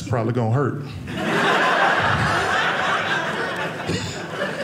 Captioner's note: audience laughing